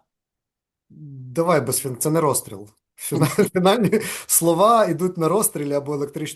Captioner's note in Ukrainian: сміється